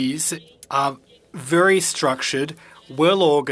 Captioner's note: speaking French